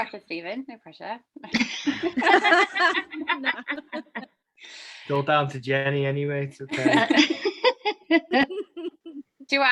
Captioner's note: laughing